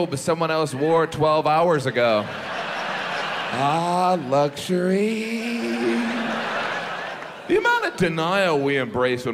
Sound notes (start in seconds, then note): 2.2 audience laughs; 5.2 audience laughs